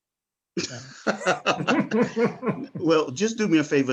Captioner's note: panelists laughing